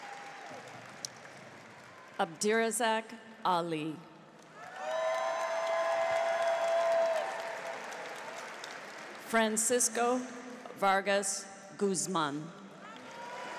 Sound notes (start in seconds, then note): 4.5 cheers; 4.5 audience applauds; 13.4 audience applauds